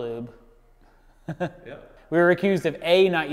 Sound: laughing

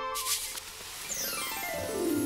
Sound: rattle

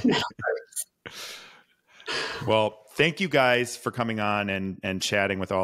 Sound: laughs

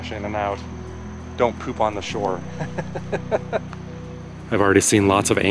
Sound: laughter

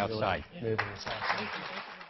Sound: clapping

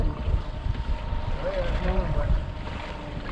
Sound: fish splashing

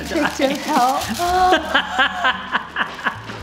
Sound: gasps; laughs

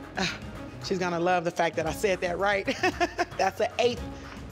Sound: laughs

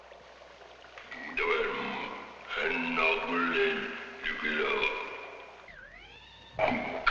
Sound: speaking in a foreign language; gentle instrumental music

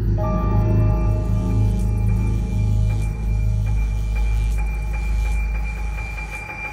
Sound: electrostatic charging/discharging

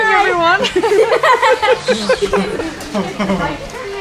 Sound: laughing

